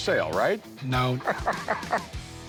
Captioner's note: laughs